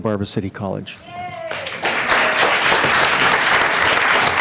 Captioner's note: applause